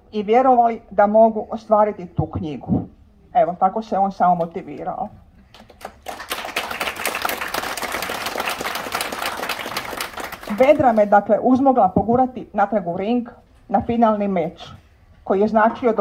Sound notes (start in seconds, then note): 5.5 applause